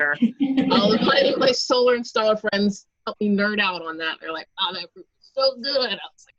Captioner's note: laughs